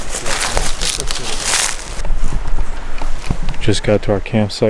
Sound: leaves crunching

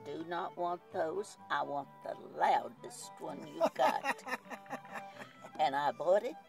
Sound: laughs

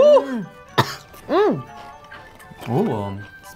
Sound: coughs

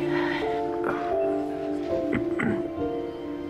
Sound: clears throat

